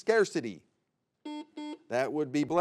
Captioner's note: buzzer beeps